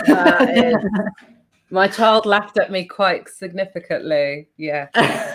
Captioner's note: laughs